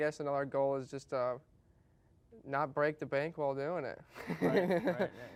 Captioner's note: laughs